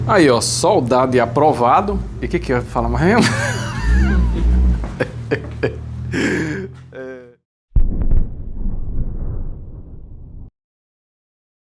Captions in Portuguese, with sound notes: aí, ó. Soldado e aprovado. E que que falar mais mesmo? [risadas] [suspirando] É.